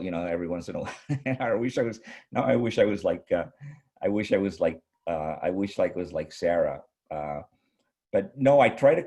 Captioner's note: chuckles